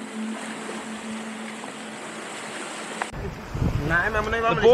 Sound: waves crashing; locals speaking Portuguese

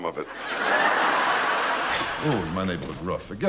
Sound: audience laughing

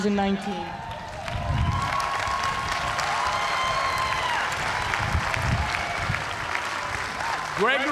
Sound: cheers and applause

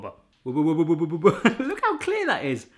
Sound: gibbering

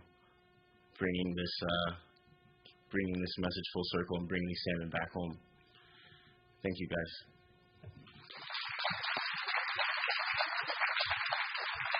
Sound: applause

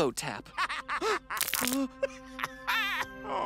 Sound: Max laughs; gasps, trembles

